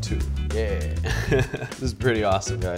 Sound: laughs

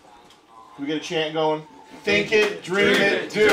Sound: all chanting

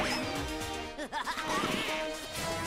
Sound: laughing

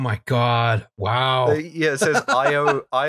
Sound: laughter

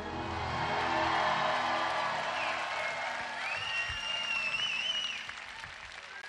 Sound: audience applauding; audience cheering

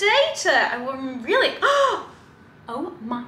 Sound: gasps

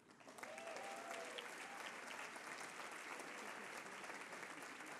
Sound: applause

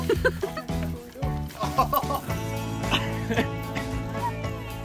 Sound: onlooker laughing; man laughs; upbeat music

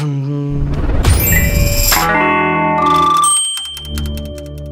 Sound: imitates Netlix sound effect; electronic sounds

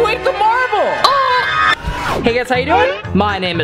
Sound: gurgle

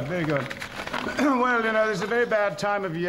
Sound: clears throat

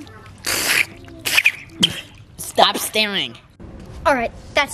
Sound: spits

